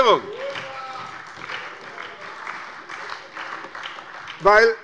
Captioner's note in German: Große Heiterkeit und Beifall bei der SPD